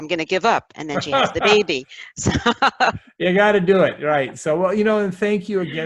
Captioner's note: laughs